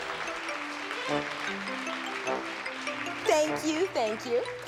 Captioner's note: applause